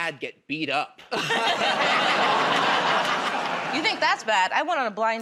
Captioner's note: laughter